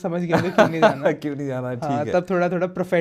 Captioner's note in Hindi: हंसी